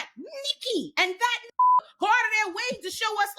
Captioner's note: beep